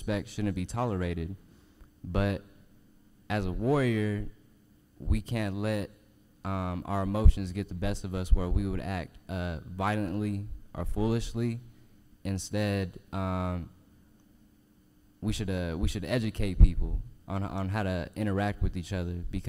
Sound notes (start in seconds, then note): none